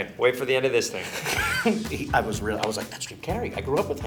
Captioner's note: laughs